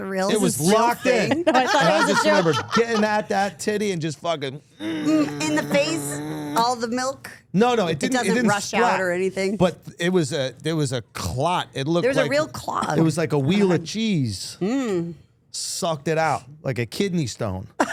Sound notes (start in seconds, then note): 4.8 grunts